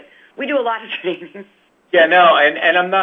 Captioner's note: chuckles